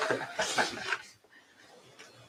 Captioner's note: laughing